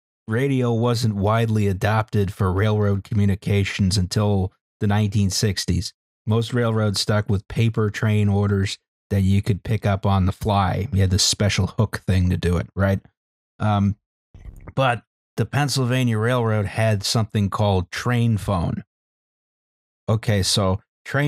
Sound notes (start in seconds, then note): none